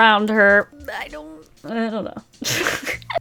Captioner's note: laughs